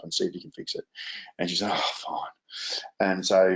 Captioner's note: sighs